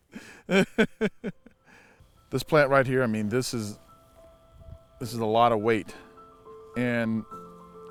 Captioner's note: laughs